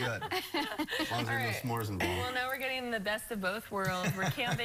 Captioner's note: laughter